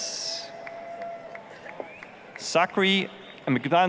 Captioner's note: applause, cheering